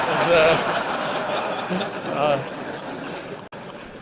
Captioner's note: laughter